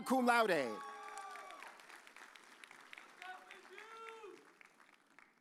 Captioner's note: audience cheers